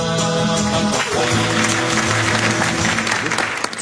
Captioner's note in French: Applaudissements